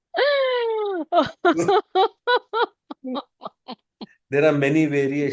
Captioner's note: laughter